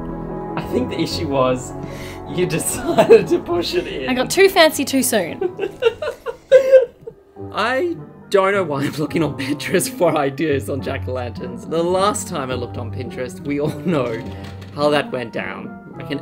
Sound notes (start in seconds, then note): 5.4 laughing